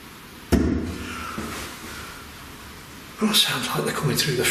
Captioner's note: loud knocking